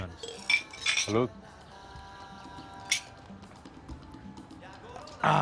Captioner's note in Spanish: Sonido al chocar los vasos